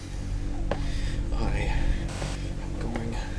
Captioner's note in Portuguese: sussurrando; Áudio pulando